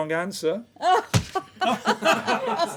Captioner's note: laughs